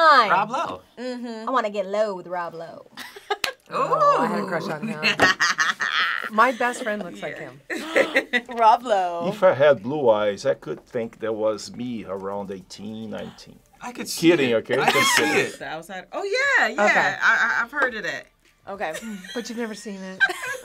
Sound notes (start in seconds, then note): 3.2 React laughs; 3.2 laughs; 7.6 React gasps